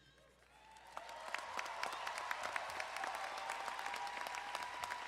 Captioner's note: crowd applauding and cheering